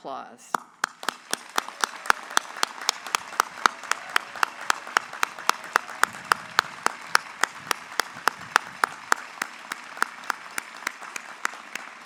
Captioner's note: applause